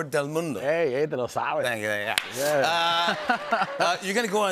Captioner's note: speaks Spanish